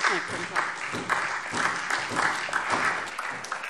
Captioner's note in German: Beifall SPD